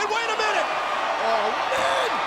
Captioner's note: audience cheers